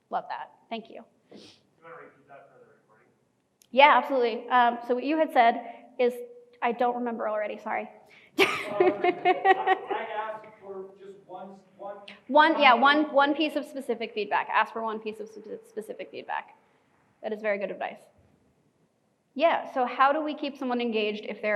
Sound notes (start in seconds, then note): 8.4 laughing